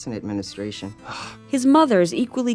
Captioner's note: gasps